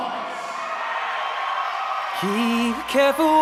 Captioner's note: audience cheers